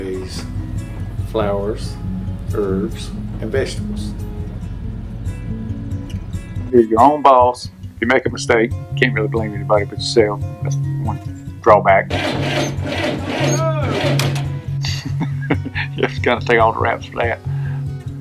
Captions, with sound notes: And we raise flowers.. .. herbs, and vegetables. You're your own boss. You make a mistake, you can't really blame anybody but yourself. That's one drawback. [sound of motor not working] [chuckle] You have to kind of take all the raps for that.